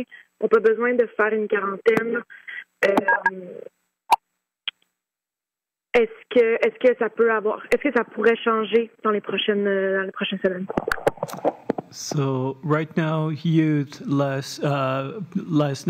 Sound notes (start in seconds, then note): 0.7 speaking French